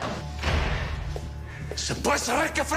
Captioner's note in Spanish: Portazo